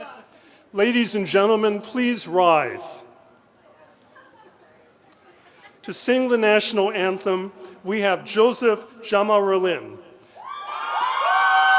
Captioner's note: cheering